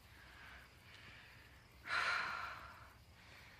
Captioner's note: sighs